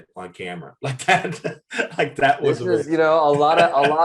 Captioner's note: Eric laughs